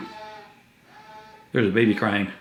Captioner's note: cries